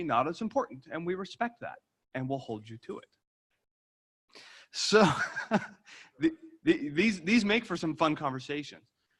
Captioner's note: laughter